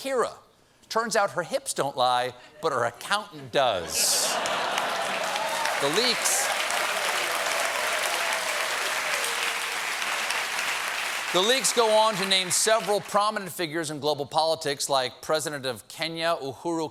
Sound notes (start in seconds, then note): 3.8 laughter; 4.3 applause